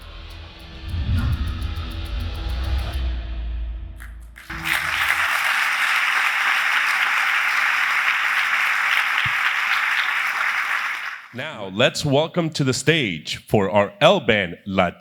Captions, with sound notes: >> [APPLAUSE] >> Now let's welcome to the stage for